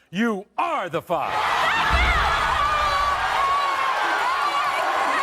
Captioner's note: cheering